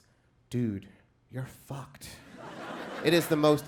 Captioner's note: crowd laughs